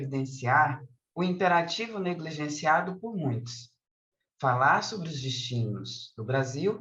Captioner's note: continues speaking in Portuguese